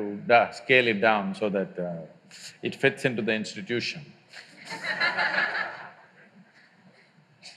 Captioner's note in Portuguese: Risos